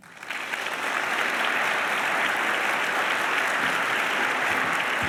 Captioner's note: applause